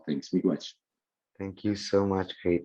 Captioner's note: speaking in a indigenous language